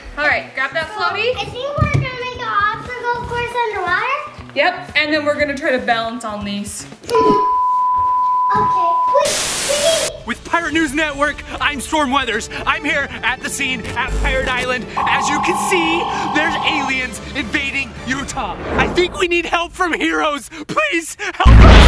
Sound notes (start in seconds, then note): 8.4 TV beeps